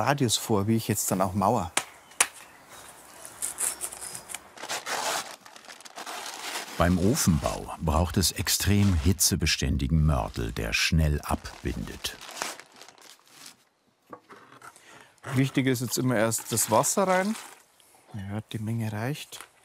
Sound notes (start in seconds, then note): 1.7 birds chirping